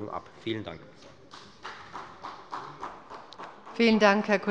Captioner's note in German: Beifall bei der FDP